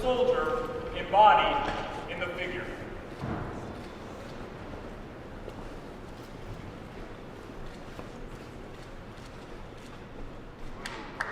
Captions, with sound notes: soldier embodied in the figure. (low crowd noise)